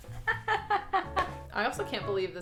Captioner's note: laughs